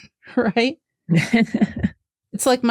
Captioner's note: laughs